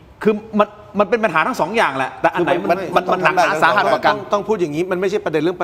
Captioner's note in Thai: เสียงหัวเราะ